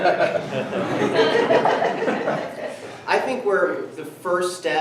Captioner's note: everyone laughs